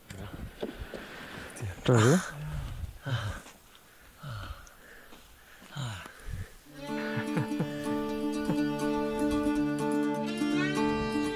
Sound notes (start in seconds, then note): 1.8 Spanish; 6.8 laughing